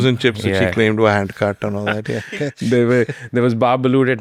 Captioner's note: laughs